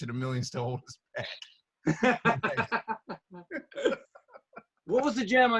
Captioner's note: laughter